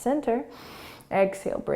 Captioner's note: inhaling